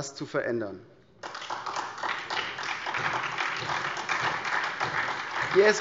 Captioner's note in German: Beifall SPD und vereinzelt DIE LINKE